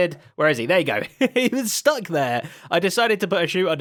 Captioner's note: laughs